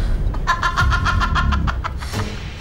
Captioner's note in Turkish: Kadın kahkahası